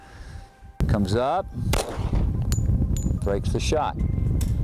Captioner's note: gun fires